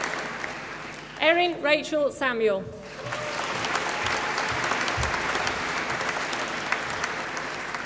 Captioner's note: applause; applause